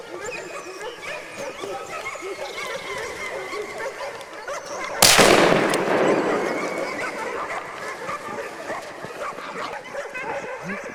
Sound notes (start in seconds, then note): 0.1 dogs barking; 5.0 gunshot; 7.3 dogs barking